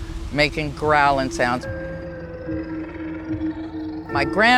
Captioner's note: haunting music; animal growling